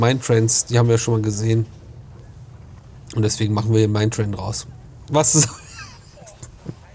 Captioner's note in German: gelächter